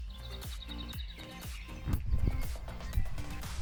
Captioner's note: birdsong